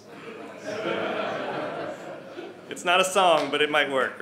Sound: audience laughing

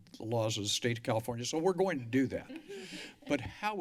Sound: laughter

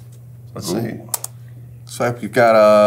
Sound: keyboard clicking

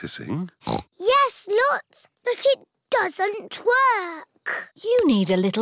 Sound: snorts

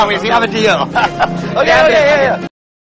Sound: laughter

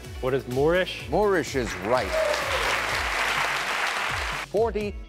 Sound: clapping

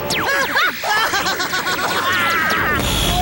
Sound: more screaming sounds

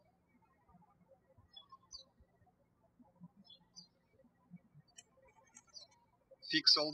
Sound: birds chirping

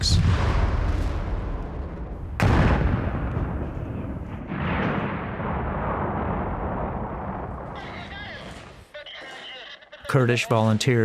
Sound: explosions

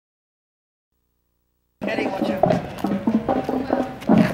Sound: voice offscreen

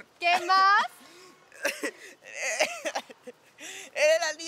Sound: laughs

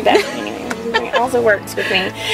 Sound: laughs

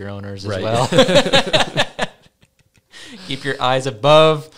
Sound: laughs

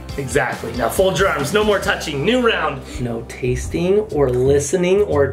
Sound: none

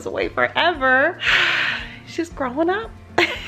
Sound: sighing

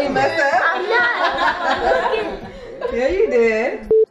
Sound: laughing

